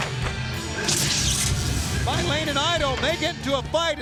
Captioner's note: electricity crackling